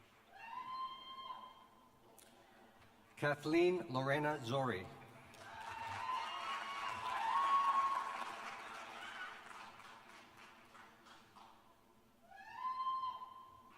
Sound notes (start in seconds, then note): 0.1 applause; 8.1 cheers